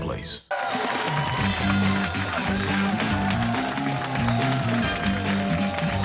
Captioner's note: cheers and applause